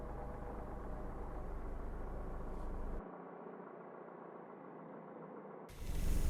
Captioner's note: engine hums quietly